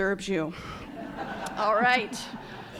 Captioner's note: laughter